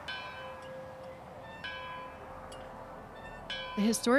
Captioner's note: church bells